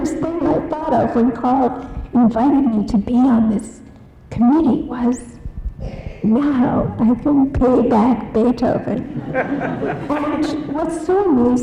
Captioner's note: audience laughs